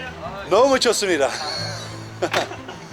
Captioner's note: car